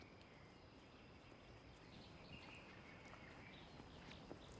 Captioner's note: bird chirp; footstep